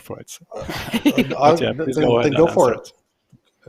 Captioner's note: laughter